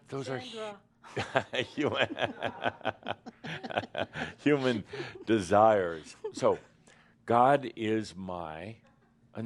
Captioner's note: Adamus chuckles